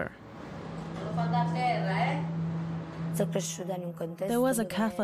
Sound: speaking in Italian

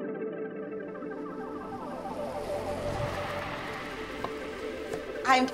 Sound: sound of passing car

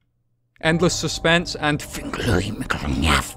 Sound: dramatic eldritch noises

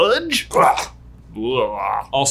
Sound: gagging

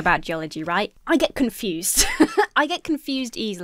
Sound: laughs

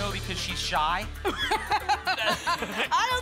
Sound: laughs

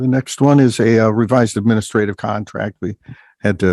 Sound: none

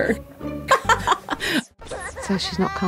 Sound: laughs

